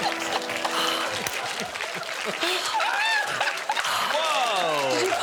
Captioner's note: guests laughing